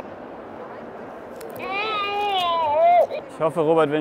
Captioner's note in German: Baby schreit